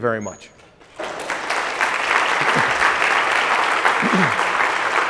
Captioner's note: applause